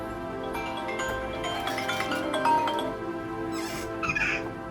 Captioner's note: FaceTime ringing